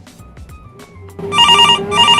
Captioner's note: phone ringing again